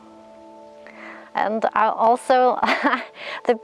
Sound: laughs

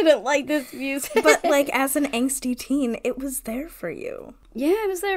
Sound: laughs

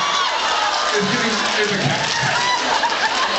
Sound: uproar; uproar

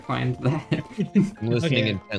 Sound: laugh

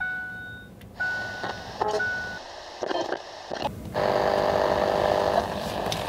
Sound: radio static

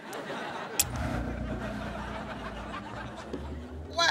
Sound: ion Generator hums

